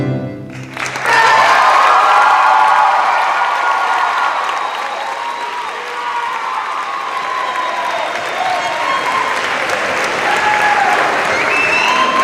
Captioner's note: cheers and applause